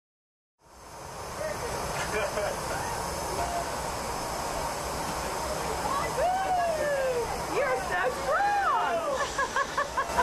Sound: chatter

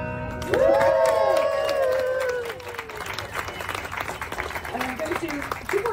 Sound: applause & Cheers

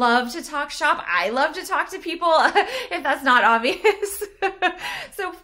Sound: laughs

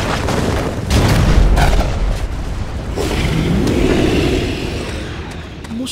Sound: explosions Sounds

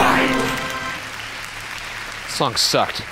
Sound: audience applauding

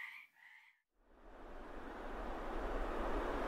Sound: wind blowing

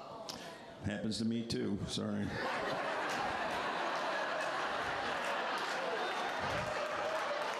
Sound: laughter

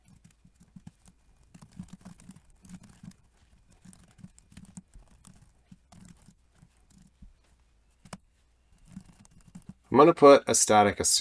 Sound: typing

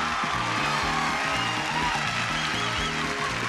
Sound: cheering

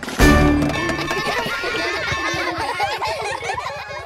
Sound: laughing

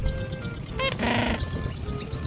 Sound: squawk!

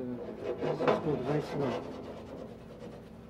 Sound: pan sliding

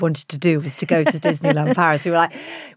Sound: Giovanna laughs

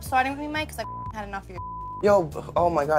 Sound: beep

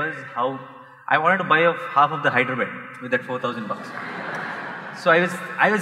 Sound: laughter

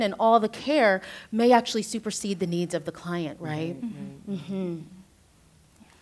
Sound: others agreeing

